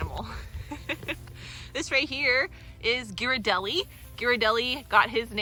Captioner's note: laugh